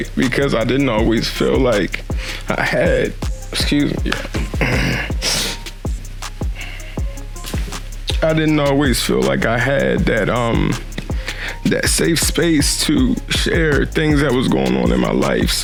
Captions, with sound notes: Because I didn't always feel like I had, excuse me, (sniffles) (clears throat) I didn't always feel like I had that safe space to share things that was going on in my life.